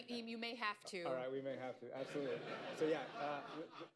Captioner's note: laughter